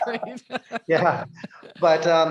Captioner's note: she laughs